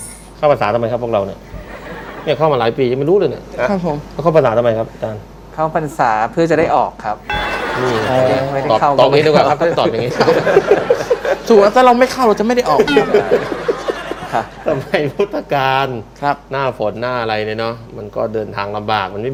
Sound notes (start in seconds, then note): 9.2 laughter; 13.0 laughter